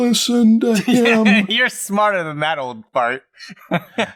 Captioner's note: laughter